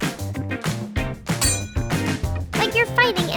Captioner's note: sword clanking